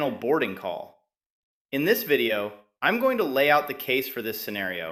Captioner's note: excited